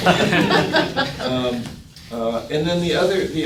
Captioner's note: people laughing